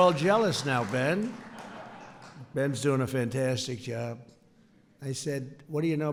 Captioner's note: laughter